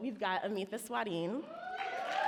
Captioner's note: audience cheer and applaud